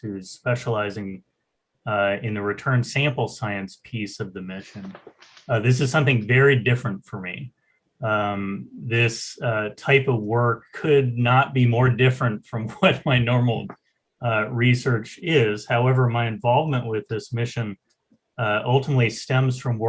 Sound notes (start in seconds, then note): 12.8 laughs